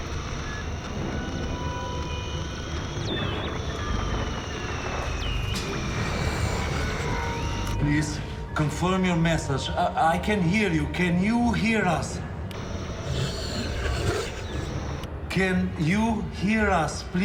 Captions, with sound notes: Please confirm your message. I, I can hear you. Can you hear us? (static hisses) Can you hear us?